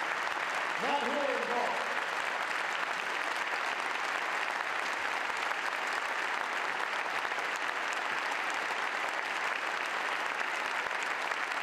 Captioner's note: applause; applause